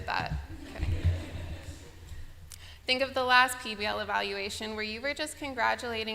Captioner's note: laughter